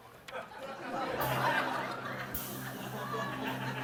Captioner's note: laughter